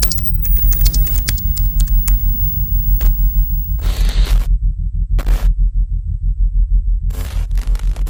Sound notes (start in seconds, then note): 0.0 keys clacking; 0.0 high-pitched feedback; 3.7 static crackling